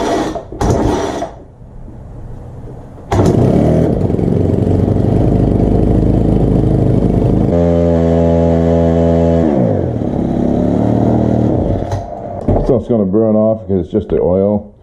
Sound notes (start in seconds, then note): 3.1 engine starts; 3.1 engine running